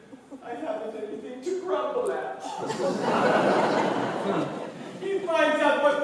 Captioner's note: IDA gasps, laughter